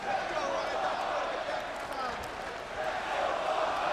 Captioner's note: crowd chanting